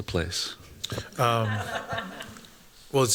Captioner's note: laughter